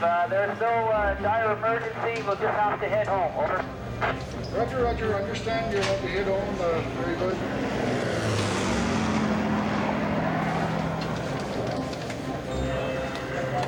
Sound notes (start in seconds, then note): 2.4 static buzzing; 7.8 airplane engine whirring